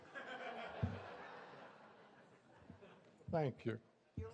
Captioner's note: laughter